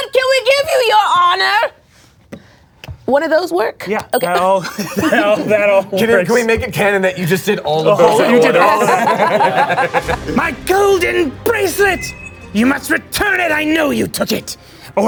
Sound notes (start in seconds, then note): 8.0 all laughing